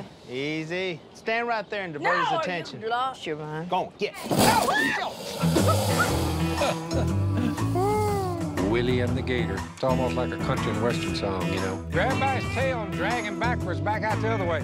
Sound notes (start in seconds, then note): 4.5 screams; 5.2 growling; 5.4 laughs